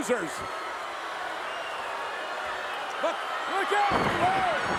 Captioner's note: crowd cheering